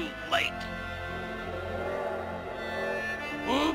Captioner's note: laughs; train whistle